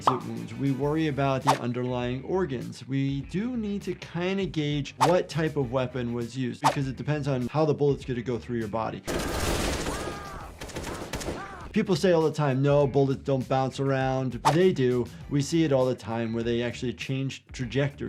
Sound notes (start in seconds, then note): 9.0 gun firing; 9.8 character screaming